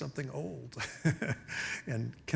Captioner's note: laughing